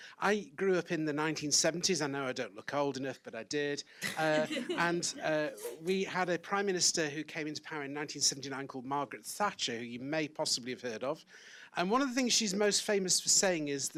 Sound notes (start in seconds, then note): 4.0 audience laughs